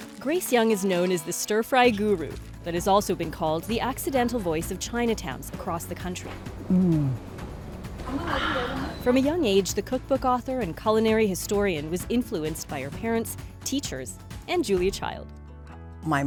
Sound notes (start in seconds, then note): 6.7 exhales